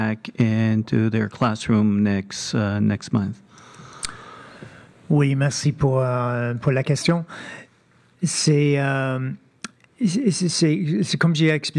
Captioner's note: speaking French